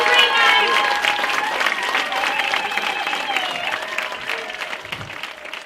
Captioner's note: cheers rise